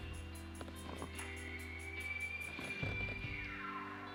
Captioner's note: elk bugling